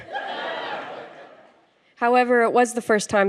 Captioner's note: laughter